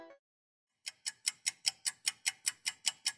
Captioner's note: ticking clock